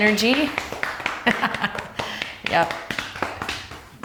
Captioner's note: laughs